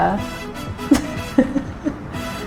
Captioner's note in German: lacht